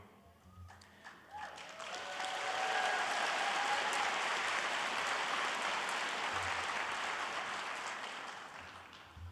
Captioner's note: audience applauding